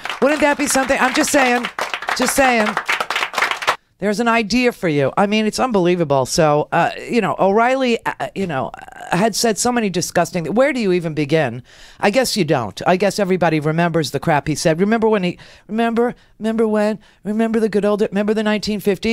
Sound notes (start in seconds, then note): 2.0 audience applause